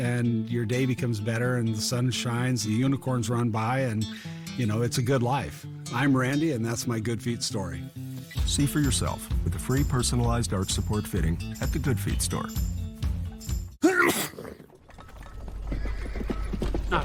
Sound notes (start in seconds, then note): 13.8 sneeze; 16.4 hooves approaching